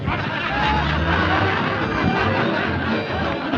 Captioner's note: all laughing